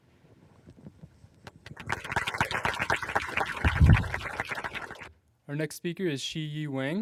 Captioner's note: applause